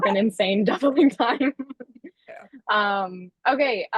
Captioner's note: laughter